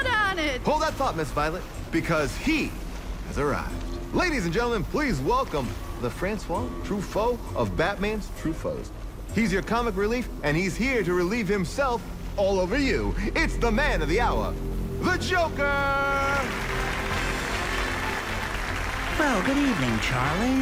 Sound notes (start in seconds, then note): 15.1 applause track plays, upbeat music